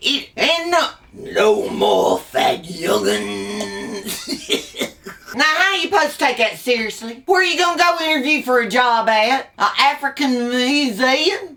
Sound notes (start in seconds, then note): 4.5 laughs